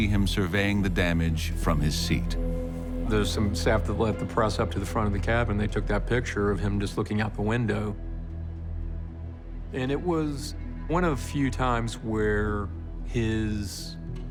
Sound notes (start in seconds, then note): none